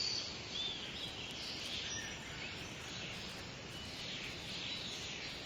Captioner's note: birds cawing and chirping